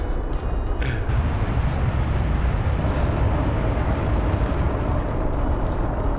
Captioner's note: landing engines firing